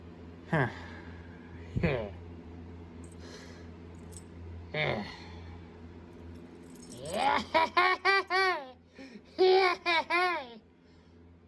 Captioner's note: laughs and giggles